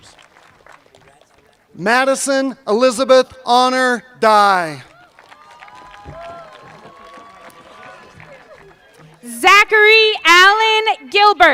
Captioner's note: cheers and applause